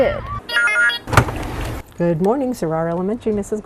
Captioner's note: phone rings and clicks